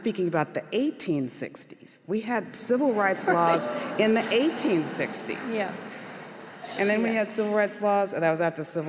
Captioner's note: audience laughter